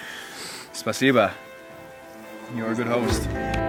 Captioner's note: speaking foreign language